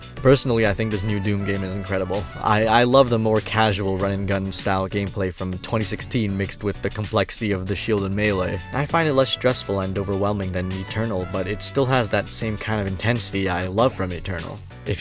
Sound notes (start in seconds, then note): none